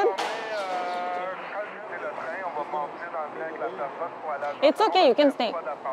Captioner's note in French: radio